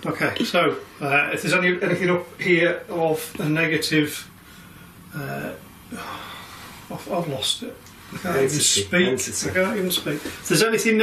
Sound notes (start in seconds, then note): none